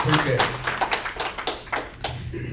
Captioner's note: applause